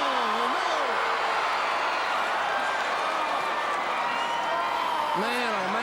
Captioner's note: crowd cheering